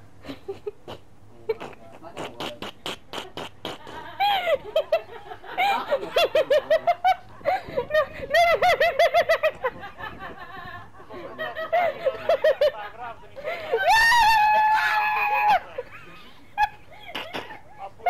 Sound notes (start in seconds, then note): 0.6 stupid snickering; 1.8 obnoxious laughter